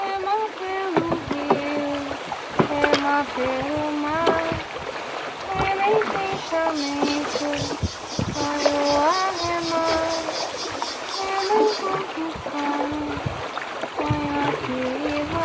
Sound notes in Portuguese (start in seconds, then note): 2.4 cantarolando